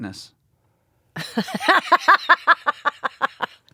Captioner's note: laughing